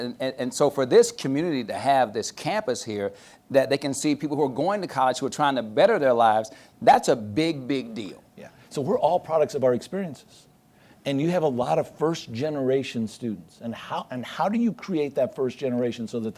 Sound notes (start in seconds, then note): none